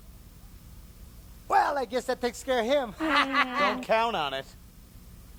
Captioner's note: laugh